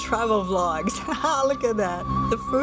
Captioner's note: laughs